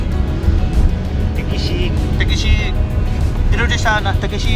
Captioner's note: south Greenlandic accent